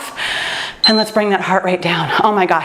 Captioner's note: timer beeps